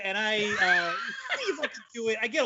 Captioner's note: laughing loudly